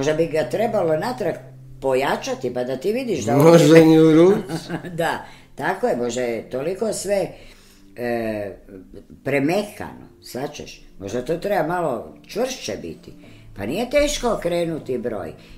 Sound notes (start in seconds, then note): 4.3 laughter